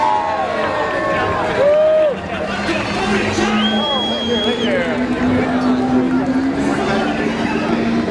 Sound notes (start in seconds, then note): 0.2 cheering; 3.4 whistles